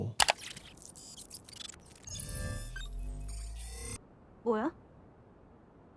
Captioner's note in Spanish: robot zumbando; El jugador habla en coreano